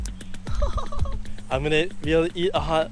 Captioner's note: laughs